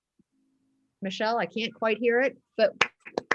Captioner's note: clapping